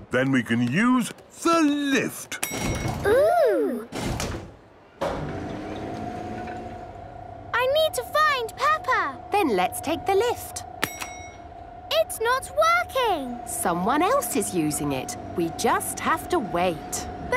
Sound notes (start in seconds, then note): 2.4 lift pings; 5.0 lift moving; 11.1 lift pings